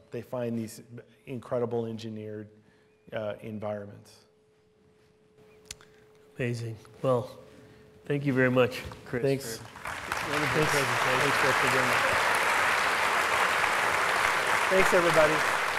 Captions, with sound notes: they find these incredible engineered environments. - Amazing. Well, thank you very much, Chris. - Thanks. (applause) Thanks everybody.